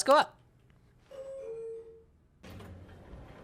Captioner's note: elevator beeps, closes